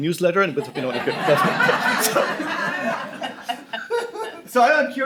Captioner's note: laughter